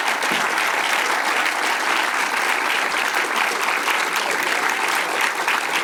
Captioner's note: applause